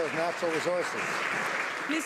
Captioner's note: some Applause